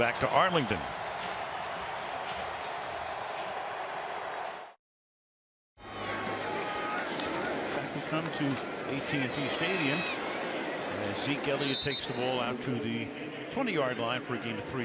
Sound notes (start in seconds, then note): 1.5 cheering